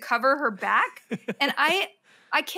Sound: laughs

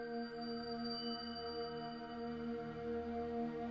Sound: none

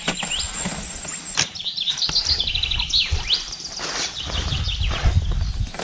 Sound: bird chirping

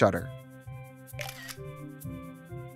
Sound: camera snap

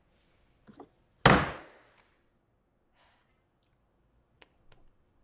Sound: gavel banging

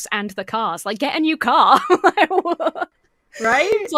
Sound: laughs

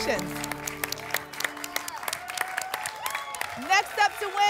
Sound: applause and cheering

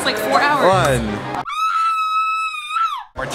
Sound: screams

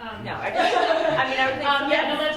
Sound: laughs

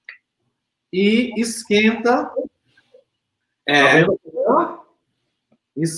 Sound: speaks portuguese

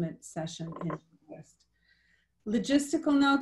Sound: audio distorts

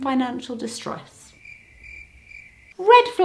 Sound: crickets sfx

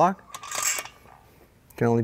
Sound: metal rattle softly

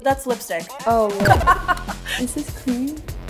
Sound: laughs

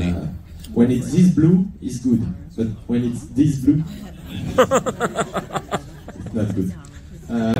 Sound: laughter

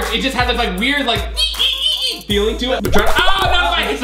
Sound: imitates creaking

